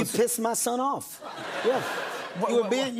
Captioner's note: laughter